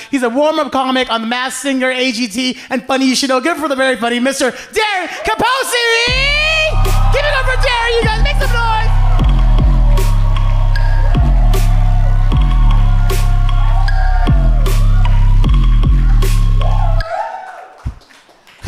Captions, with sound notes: He's a warmup comic on "The Mass Singer," "AGT," and "Funny You Should Know." Give it up for the very funny Mr. Darren Capozzi! (audience cheers) Give it up for Darren, you guys. Make some noise. (upbeat music) (audience cheering)